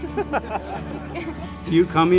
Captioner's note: crowd laughs